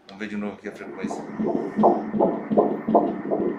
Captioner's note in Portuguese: batimentos cardíacos